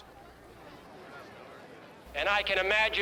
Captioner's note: people chatter